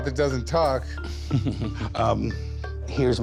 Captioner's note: chuckles